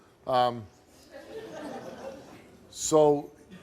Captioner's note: audience laughing